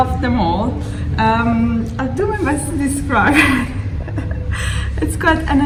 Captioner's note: laughing